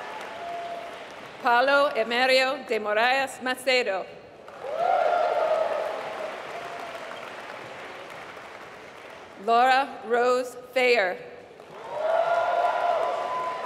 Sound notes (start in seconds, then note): 0.0 applause; 4.4 applause; 11.4 applause